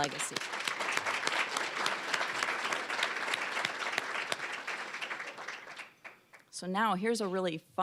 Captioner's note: applause